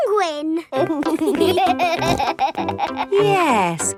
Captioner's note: laughing